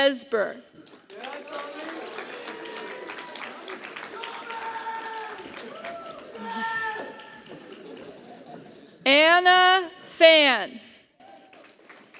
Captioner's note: applause; applause